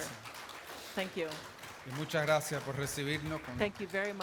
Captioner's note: applause